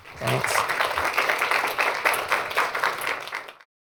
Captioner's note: applause